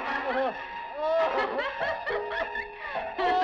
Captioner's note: woman laughing